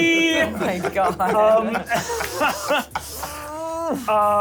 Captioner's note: laughs